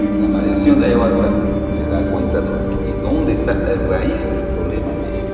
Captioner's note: man speaking in foreign language